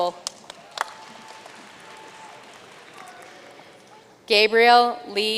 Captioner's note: audience cheering and applauding